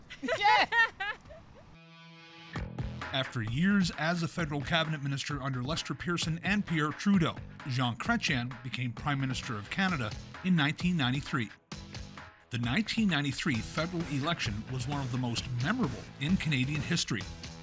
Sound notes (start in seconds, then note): 0.0 laughs